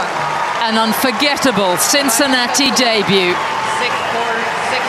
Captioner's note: applause